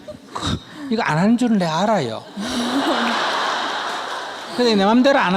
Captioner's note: audience/Questioner Laughter